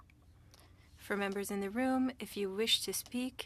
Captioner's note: speaking French